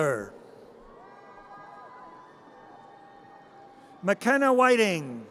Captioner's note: audience cheers